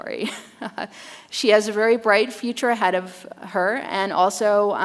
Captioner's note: chuckles